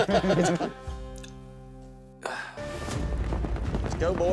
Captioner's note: everyone laughs; sighs